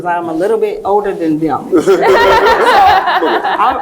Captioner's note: laugh